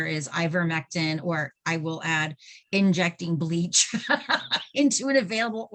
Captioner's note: laughing